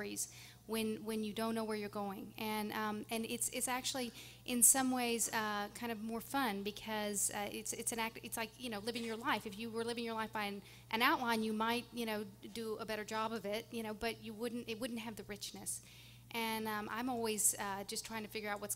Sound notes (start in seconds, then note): none